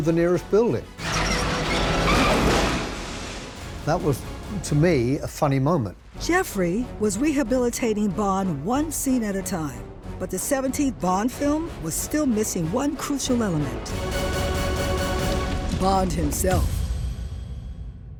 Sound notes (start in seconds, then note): 1.0 tank wheels squeaking